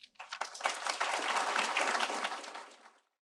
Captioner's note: applause